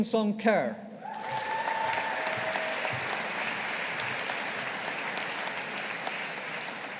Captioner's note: audience applauding